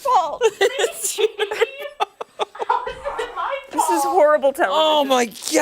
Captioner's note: laughter